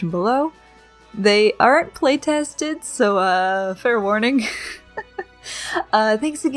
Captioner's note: laughs